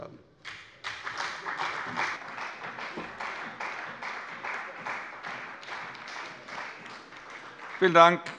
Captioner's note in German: Beifall bei dem BÜNDNIS 90/DIE GRÜNEN und der CDU